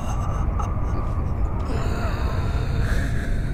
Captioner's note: chuckling